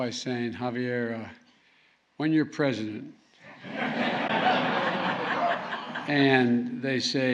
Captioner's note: laughter